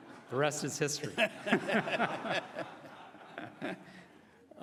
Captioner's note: laughing